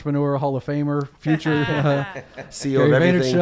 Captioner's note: laughs